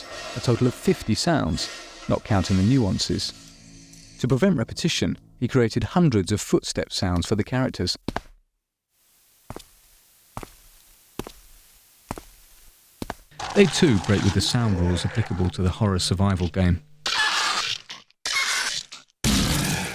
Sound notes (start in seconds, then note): 9.0 footstep sounds; 17.2 monster sounds